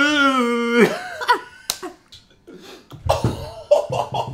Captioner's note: laughs